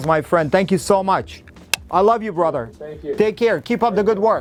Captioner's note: lips smack